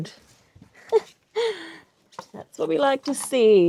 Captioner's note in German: lacht